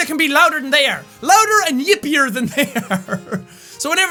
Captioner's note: laughing